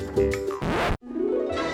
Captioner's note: happy music; record scratch